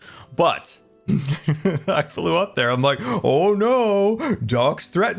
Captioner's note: laughs